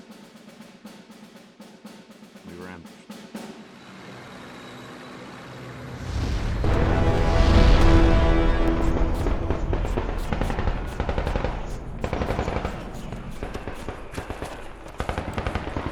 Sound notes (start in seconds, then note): 6.2 bombs explode; 8.0 ominous horn music